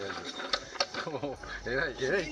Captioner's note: laugh